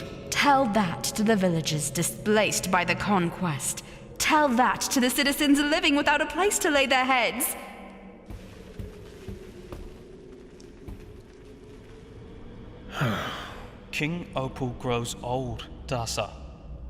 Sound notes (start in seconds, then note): 12.9 sigh